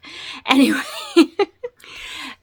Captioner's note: laughs